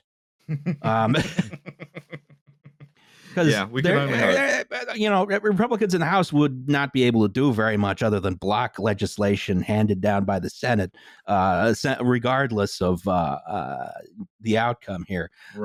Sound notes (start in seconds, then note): 0.5 laughs